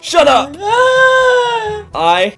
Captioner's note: puppet girl hysterically crying